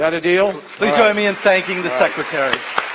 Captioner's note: applause